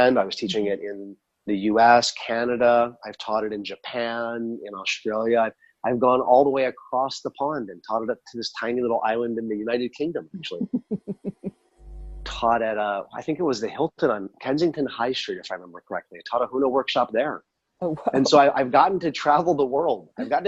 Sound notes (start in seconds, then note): 10.4 laughs; 18.0 laughs